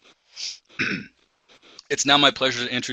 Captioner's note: clears throat